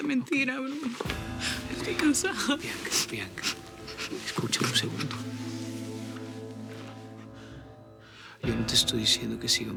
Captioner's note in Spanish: Sollozos